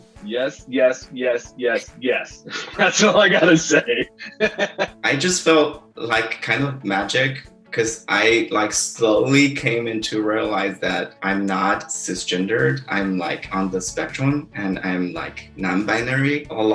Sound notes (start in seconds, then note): 3.9 laughs